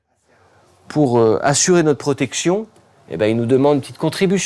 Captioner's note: French spoken audio